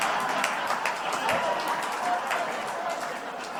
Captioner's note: laughter/Applause